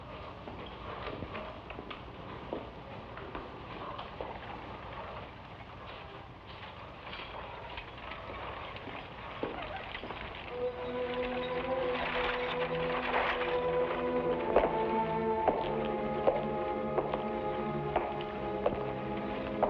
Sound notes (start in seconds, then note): 10.9 somber music; 14.6 shoes clack